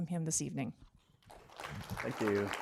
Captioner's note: applause